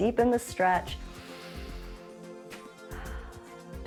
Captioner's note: inhales and exhales